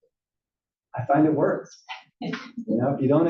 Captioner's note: laugh